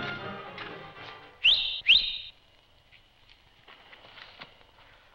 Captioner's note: whistles